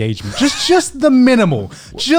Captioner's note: laughing